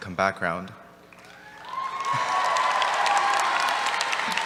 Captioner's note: cheers